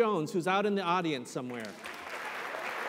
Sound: applause

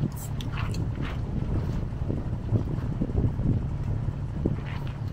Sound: wind blowing

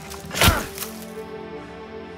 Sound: exerted grunt

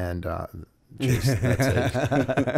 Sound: laughter

